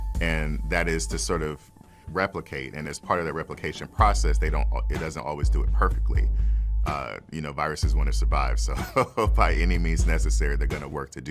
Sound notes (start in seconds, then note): 8.8 laughs